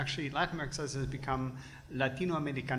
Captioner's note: foreign language